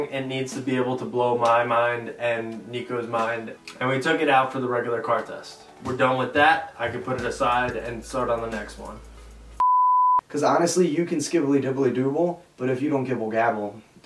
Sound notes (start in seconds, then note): 8.7 beeping